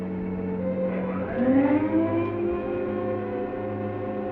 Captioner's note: machine whirring